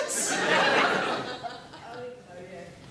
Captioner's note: audience laughs